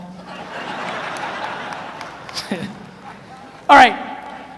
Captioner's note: audience laughs